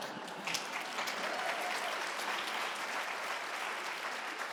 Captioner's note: audience cheering